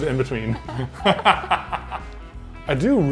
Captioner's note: laughs